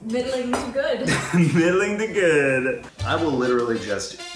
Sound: laughs

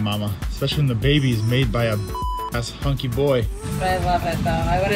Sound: beep

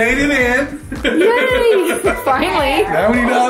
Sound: laughs

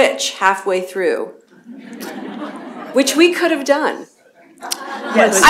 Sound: laughter

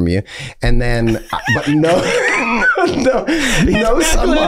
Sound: all laughing

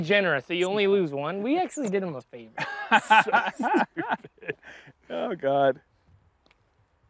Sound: laughter

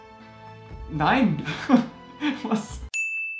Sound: laugh

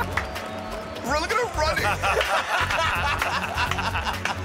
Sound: laughing

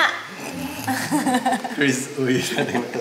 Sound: laughs

